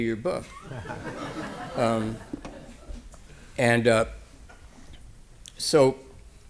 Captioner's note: laughter